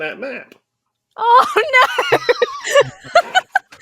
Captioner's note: laughs